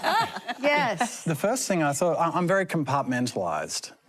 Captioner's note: laughter